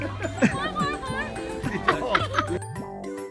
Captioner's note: laughing